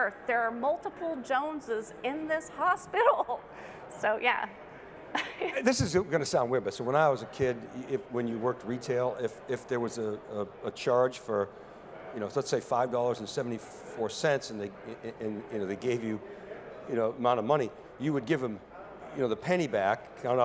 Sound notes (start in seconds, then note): 5.1 giggles